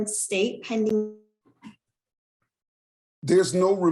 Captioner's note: sound cuts out